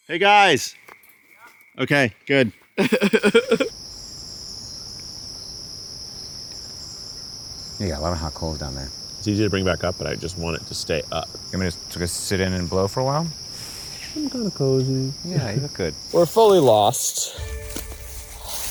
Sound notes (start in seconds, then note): 2.8 laughs; 3.7 crickets chirping